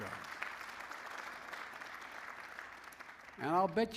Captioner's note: applause